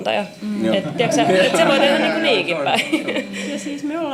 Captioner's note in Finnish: naurua